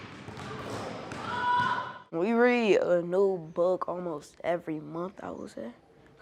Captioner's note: basketballs thudding